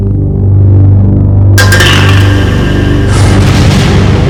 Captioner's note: can clanging